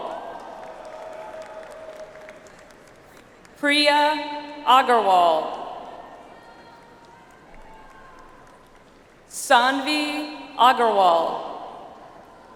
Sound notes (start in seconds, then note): 0.0 audience applauds; 6.3 audience applauds